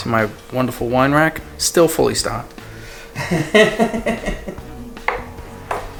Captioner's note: laughs